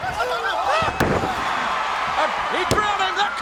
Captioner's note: body thuds